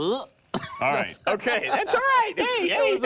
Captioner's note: laughs